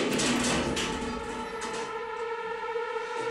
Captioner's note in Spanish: Ruido al abrir la puerta